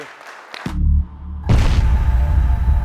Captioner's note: applause